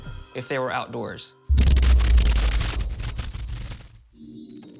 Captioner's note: thunderous boom; tense music